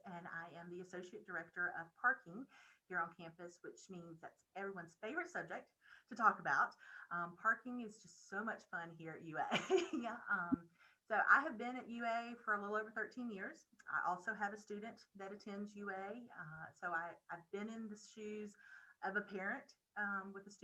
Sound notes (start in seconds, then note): 9.4 laughing